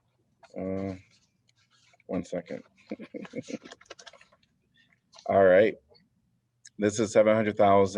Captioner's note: laughter